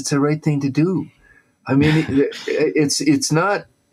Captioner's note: laughs